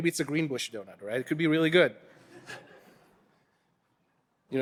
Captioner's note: audience laughing